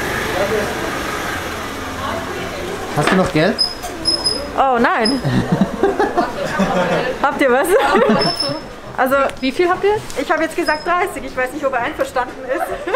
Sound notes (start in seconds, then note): 5.1 laugh; 12.4 laughter